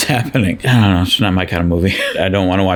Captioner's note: chuckles